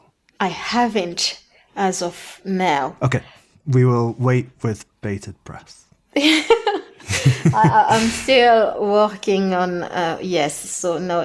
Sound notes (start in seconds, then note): 6.2 they laugh